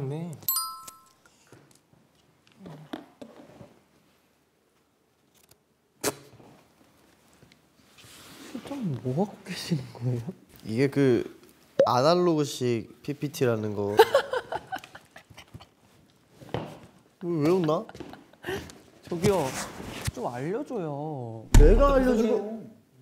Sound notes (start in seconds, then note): 14.1 employee laughing at him